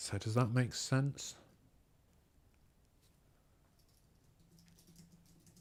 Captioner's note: silence